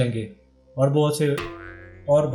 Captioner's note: fumble